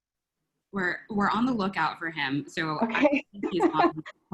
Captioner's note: laugh